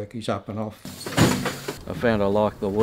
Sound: machinery noise

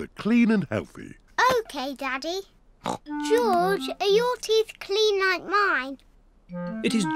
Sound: snorts

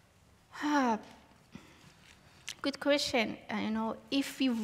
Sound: sighs

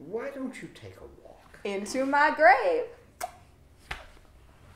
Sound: pop sound

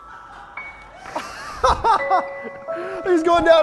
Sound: laughs

